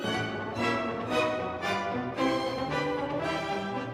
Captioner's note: none